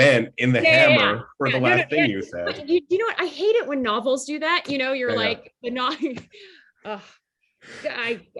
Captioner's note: laughter